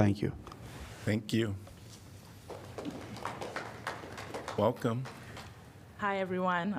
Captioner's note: applause